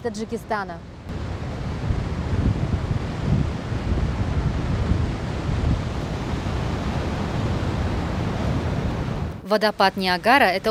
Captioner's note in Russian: шум водопада